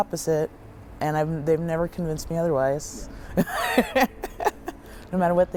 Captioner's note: laughs